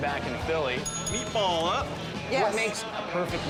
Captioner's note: bell dings